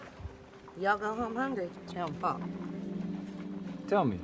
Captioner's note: Margaret speaking Spanish